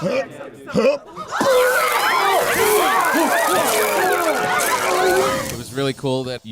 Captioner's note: retching Sound